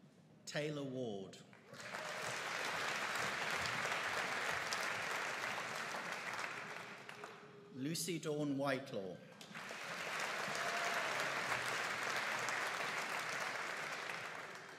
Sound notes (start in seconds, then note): 1.7 audience applauding; 9.4 audience applauding